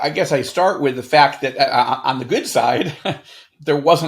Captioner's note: chuckles